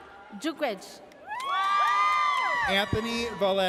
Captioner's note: audience cheers